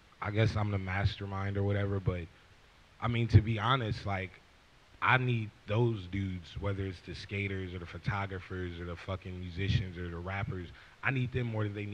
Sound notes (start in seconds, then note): none